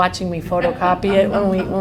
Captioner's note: laughter